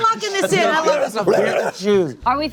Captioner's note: growls